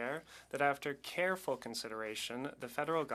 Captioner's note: speaking French